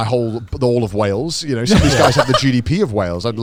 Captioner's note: laughs